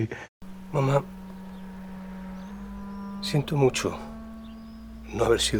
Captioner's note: speaking in foreign language